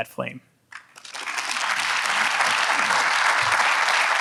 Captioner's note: audience applauds